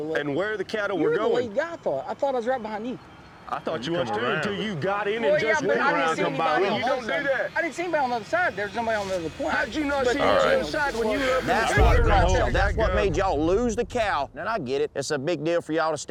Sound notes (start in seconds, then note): 3.3 overlapping arguing; 11.4 arguing continues